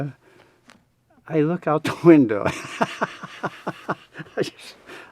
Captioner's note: laughs